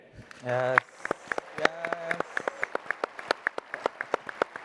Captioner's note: applause and cheering